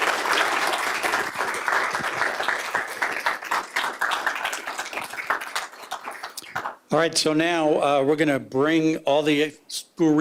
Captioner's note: applause